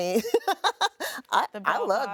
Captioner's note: laughing